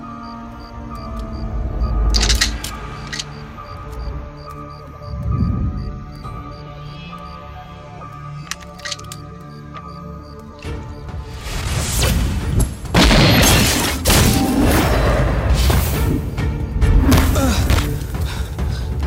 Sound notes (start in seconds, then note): 2.1 gun cocking; 12.9 gunshot